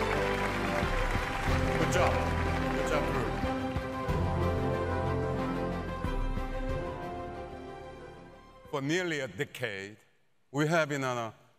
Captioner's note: applause